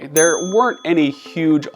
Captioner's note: bell dings